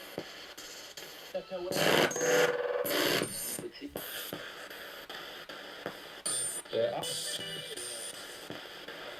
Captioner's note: sound of the Spirit Box in the background